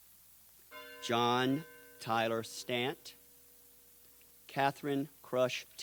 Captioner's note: bell tolls